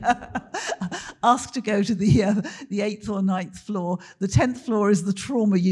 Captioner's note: laughs